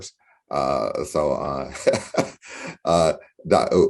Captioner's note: laughs